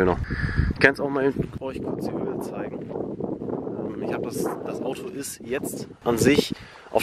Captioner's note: wind noises intensifies